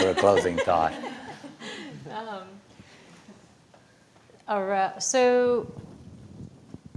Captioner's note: laughter